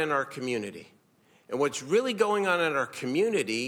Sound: none

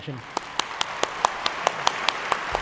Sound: applause

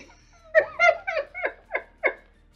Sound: laughing

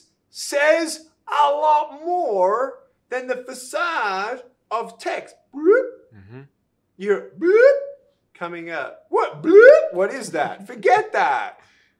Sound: whoop

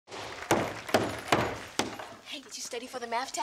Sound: knocking

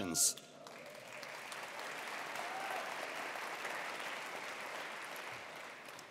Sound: attendees applauding

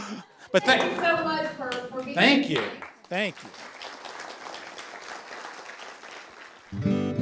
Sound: applause

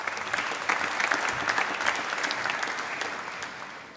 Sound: applause

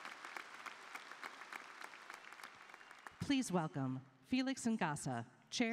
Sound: applause

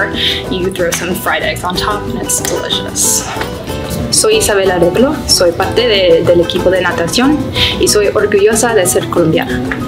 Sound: speaking in Spanish

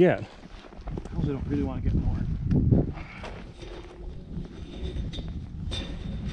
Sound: fence rattling

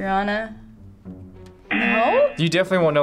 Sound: buzzer

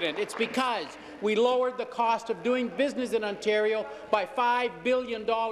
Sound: applause

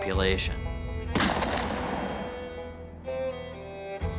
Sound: gun fires

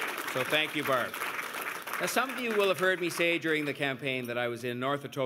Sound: cheers and Applause

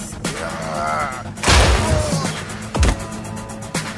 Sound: men grunting

